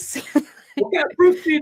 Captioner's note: laughing